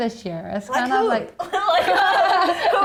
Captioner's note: laughs